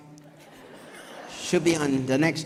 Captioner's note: audience laughs